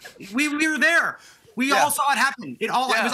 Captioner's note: laughter